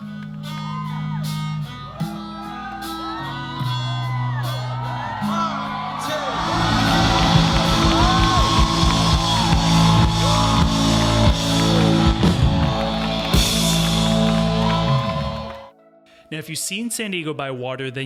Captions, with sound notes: (loud rock music) (audience cheering) Now if you've seen San Diego by water